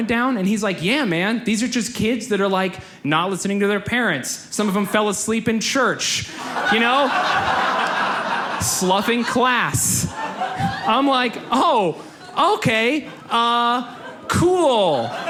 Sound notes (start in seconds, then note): 6.8 audience laughs; 15.0 audience laughs